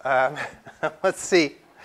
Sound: laugh

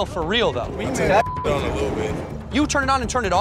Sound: beep

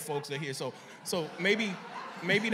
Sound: laughter

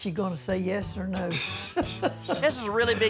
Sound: laughter

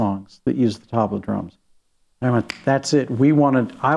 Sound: snaps fingers

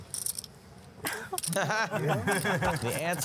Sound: sighs; laughter

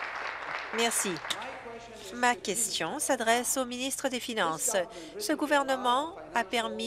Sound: applause

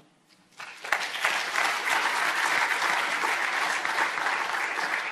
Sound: audience applauding

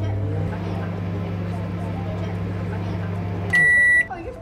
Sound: microwave button beeping; microwave buzzing; microwave beeping

